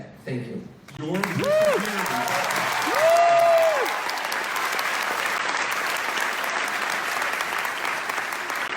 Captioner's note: applause